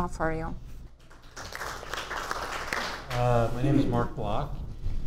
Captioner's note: audience applauds